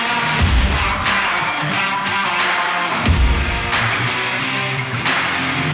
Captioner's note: steaks sizzling